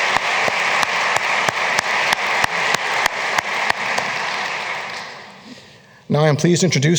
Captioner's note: applause